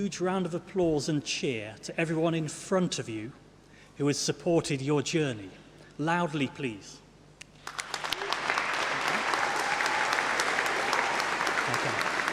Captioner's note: applause